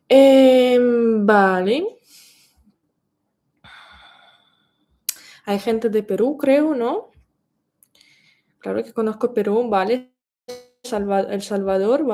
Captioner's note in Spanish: suspiro